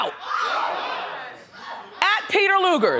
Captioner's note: audience gasps